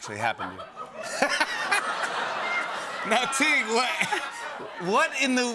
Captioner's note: laughter